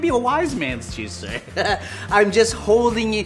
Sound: laughing

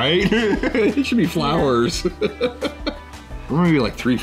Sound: man laughing

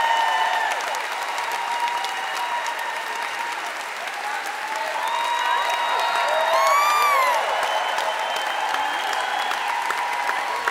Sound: audience applauds

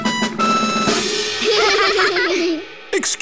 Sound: laughing

